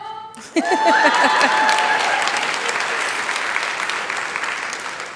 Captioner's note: laughter